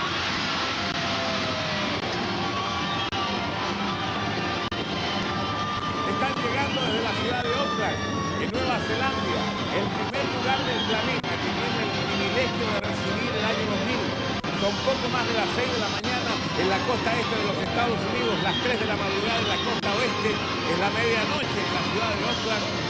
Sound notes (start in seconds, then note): 2.3 celebratory shouts and fireworks; 5.9 UNIVISION - Spanish